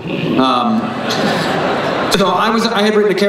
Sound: everyone laughs

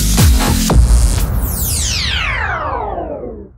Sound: electricity powering off

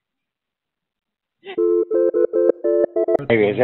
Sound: phone rings

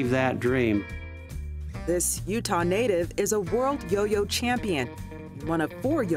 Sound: voiceover

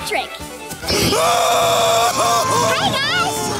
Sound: crying; shrieking

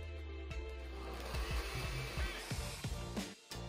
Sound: blender running

